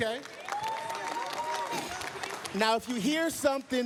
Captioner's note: applause, cheers